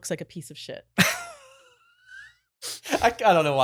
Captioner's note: laughing